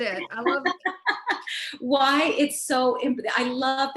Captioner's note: Veronica laughing